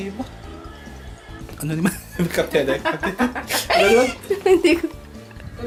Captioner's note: laughing